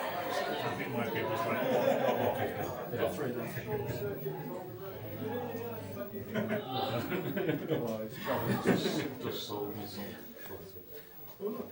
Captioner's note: laughter